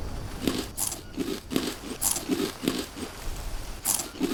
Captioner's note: lots of crunching